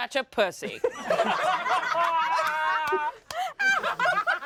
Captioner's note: everyone laughs